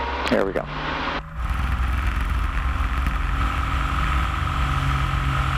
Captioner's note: airplane starting